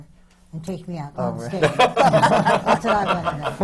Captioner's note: laughter from the panel